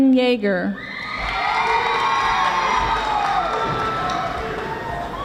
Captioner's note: audience applauding